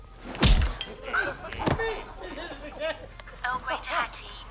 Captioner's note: laughter